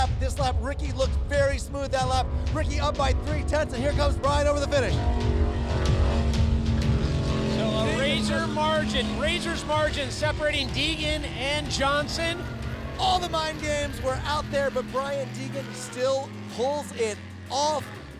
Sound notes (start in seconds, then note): 4.9 jetboat sounds